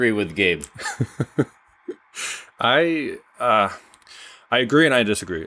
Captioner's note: laughs